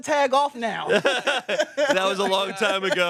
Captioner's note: everyone laughs